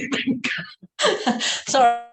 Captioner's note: laughter